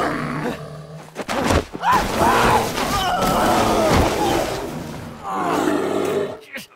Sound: animal roaring; speaker yelling; blows thudding; speaker grunting

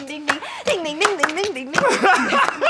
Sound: laughing

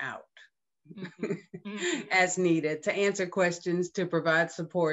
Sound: laughs

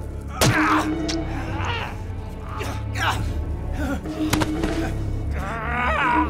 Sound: fleshy thunk; grunting

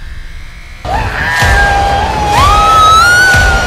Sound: shouts

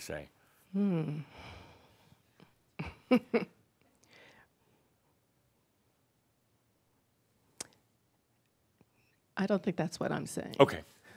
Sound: she chuckles and pauses

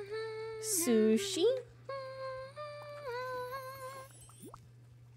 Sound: Mirabel Humming

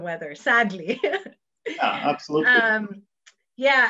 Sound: laughs

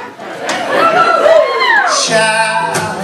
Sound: cheers

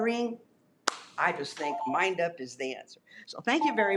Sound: claps

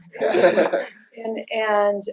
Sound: laughter

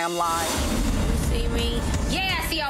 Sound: swoosh

